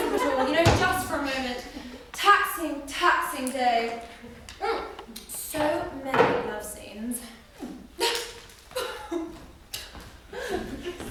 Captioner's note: laughs